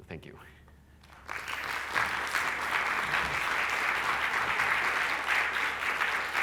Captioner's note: applause